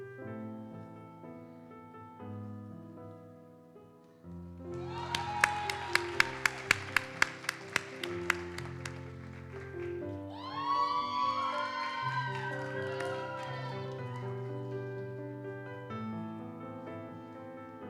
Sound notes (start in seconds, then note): 4.9 audience cheers and applauds; 14.3 gentle music continues